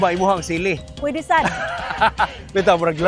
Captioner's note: laughs